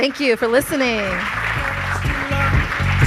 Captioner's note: audience claps; upbeat music